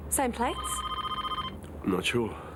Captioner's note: phone ringing